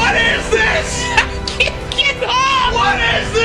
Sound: laugh

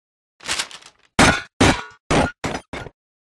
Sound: rustle, clunking

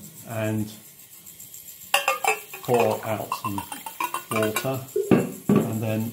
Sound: clinking sound

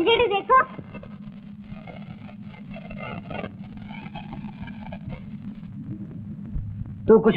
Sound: crackers bursting

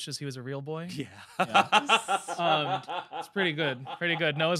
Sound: laughs

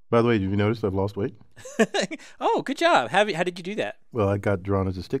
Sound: laugh

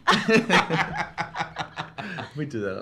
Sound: laugh

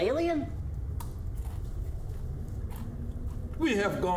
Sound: crunching

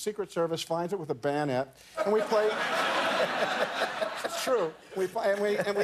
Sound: laughter

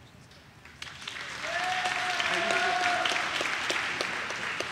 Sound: audience cheers

